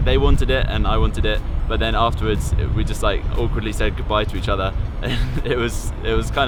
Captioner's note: laughs